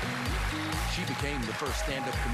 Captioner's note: applause